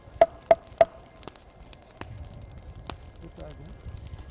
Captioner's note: hitting tree